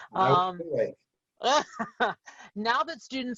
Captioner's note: laughing